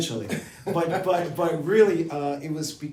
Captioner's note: laughs